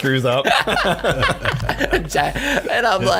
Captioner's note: both laugh